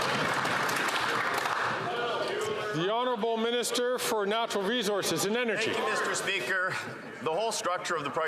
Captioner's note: some Applause